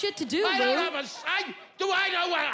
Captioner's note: yelling